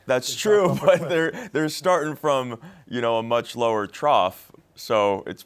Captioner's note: laughs